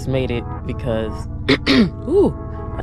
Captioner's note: clears throat